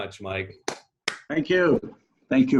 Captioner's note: hands clapping